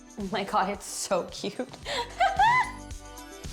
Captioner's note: laughs